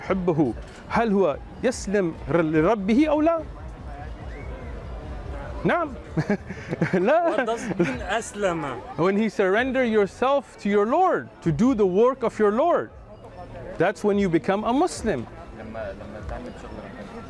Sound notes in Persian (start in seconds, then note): 6.1 خنده